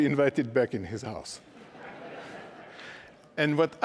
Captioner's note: laughter